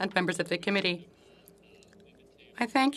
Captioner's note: speaking French